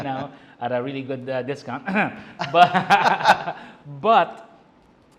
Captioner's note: laughs